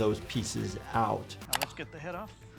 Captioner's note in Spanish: clic del mouse